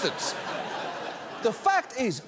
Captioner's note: audience laughs